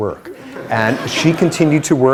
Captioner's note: laughter